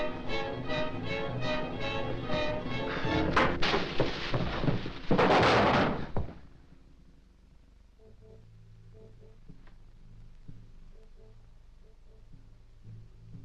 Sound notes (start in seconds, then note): 3.1 blow thudding; 3.3 table crashing; 7.8 grim music